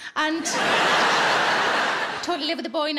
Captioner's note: audience laughing